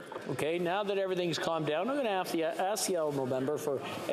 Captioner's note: chatter